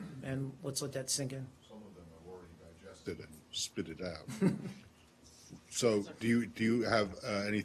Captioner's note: laughter